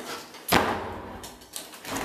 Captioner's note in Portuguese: barulho porta fechando